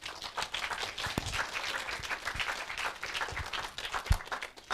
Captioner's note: audience applauding